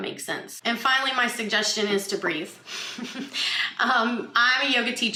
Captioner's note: laughs